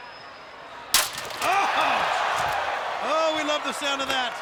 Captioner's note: chair cracking, spectators react